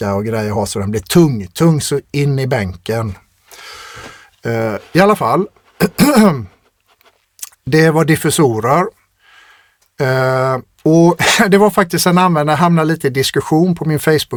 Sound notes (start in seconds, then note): 5.8 clears throat